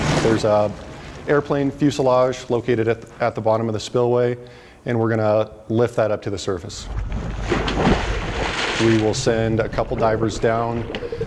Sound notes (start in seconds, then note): 0.0 water splashing; 6.8 water splashing